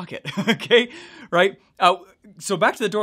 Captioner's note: laughs